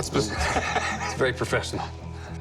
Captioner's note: laughs